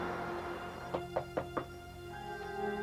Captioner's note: knocking